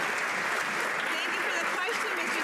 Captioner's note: some Applause